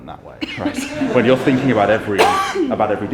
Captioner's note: everyone laughs